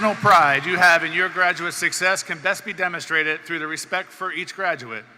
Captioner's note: cheers and Applause